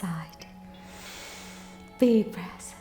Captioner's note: inhales